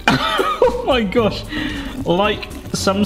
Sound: laughs

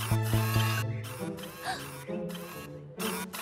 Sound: gasps

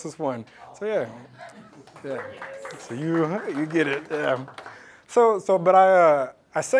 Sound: applause

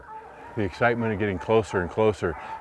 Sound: hounds barking

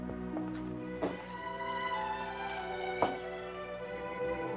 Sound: footsteps banging

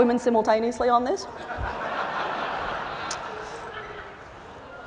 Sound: laughter

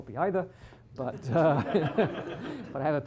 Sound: laughter

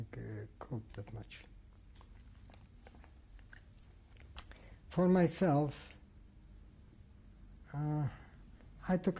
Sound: pauses for 3 seconds

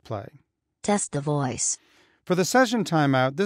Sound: automated voice

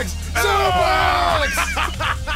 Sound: yells; laughs

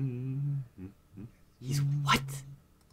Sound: humming; hushed; humming

